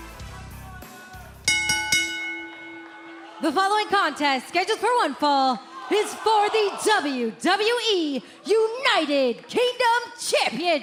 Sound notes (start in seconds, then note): 3.2 bell ringing